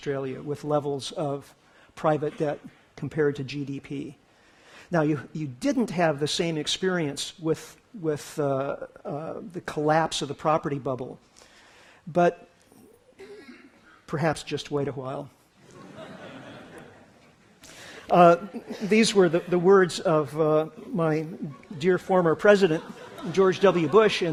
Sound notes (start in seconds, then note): 15.6 laughter